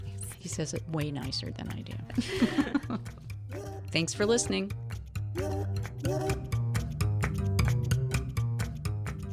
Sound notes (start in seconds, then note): 2.1 laughter; 4.7 music fades out